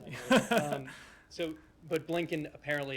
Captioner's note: laughter